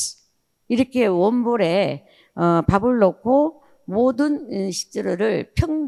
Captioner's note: speaking in foreign language